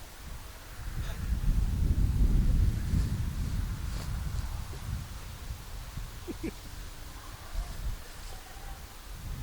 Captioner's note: laugh